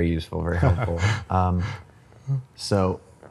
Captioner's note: laughs